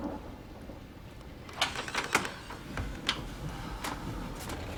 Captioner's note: door opens